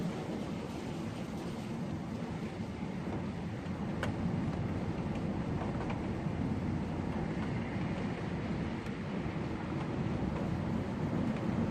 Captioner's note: wind noise